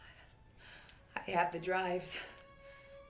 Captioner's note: inhales